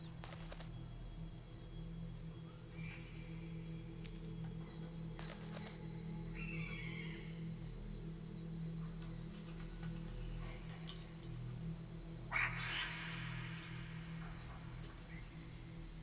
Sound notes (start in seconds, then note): 12.2 birds calling